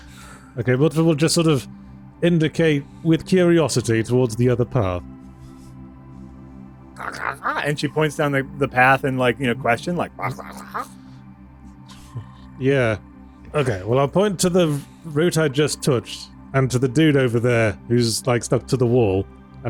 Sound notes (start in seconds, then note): 7.0 brief mouth noises